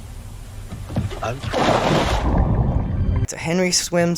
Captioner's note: splash